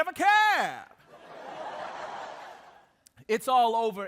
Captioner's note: audience laughing